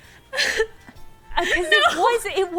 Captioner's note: laughing